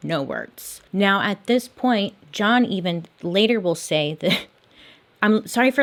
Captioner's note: chuckles